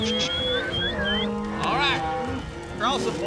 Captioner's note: cattle moo, whistling